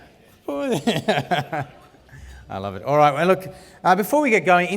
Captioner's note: laugh